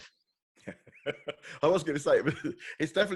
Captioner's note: laughs